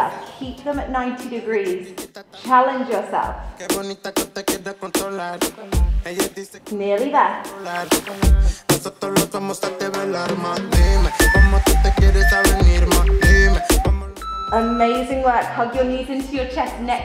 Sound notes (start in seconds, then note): 11.2 timer beeping